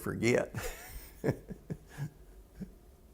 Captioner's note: laughter